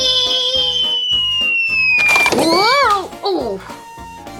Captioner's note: boom